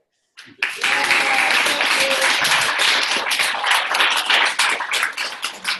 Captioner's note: applause